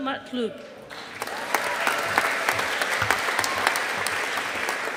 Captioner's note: audience applauding